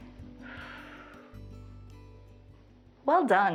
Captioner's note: exhales